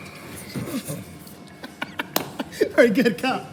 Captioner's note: laughs